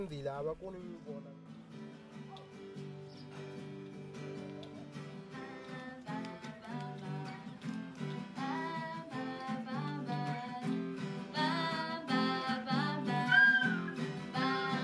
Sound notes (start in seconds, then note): 3.6 speaking native language; 8.2 guitar music